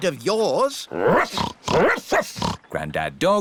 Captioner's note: snorting; barking